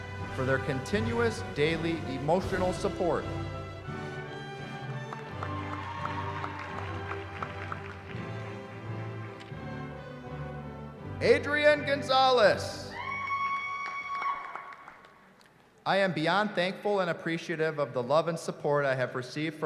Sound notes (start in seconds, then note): 4.6 applause; 12.8 cheering